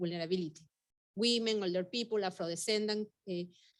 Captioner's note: speaking Spanish